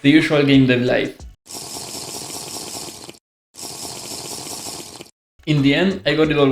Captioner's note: Minecraft drinking sound